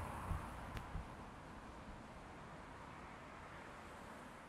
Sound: highway noise

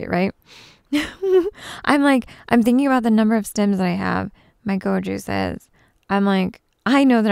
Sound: giggles

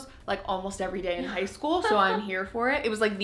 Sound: laughs

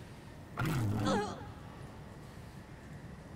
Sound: groan; lightsaber noise

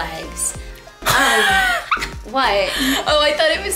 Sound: laughter

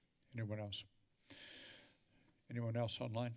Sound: inhales deeply

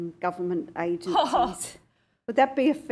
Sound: laughs

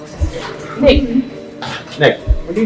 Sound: laugh

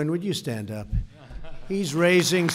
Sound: applause

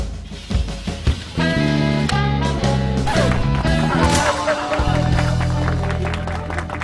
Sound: applause

